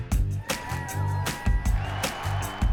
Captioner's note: crowd cheering; girls cheering